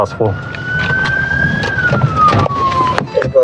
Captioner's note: sirirenens blblararing